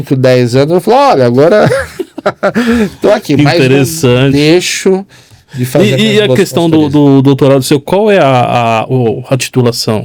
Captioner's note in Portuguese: risadas